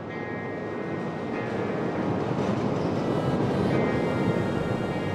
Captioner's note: train clanking